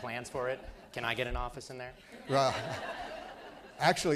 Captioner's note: laughter